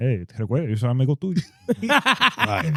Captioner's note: speaking In Foreign Language